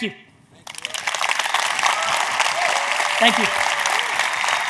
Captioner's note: audience cheers